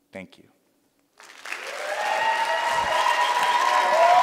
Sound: applause

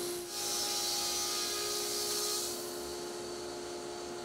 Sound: saw buzzes

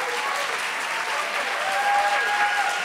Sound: applause

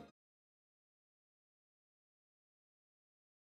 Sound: silence

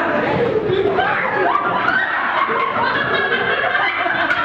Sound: all laugh

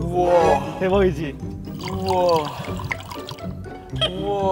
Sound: pouring out

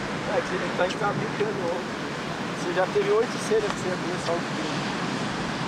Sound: speaking in foreign language

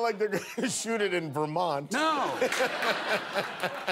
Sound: laughter

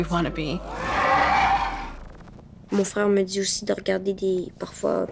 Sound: roaring; speaking in French

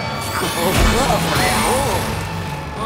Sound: giggling

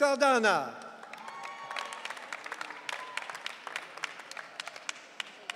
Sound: audience cheering

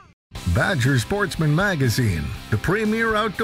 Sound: voiceover

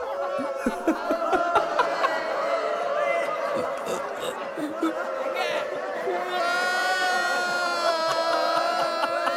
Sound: crowd laugh and screm; Mohit crying

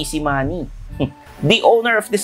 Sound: scoffs

